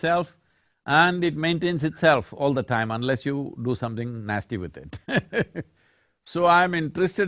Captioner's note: laughs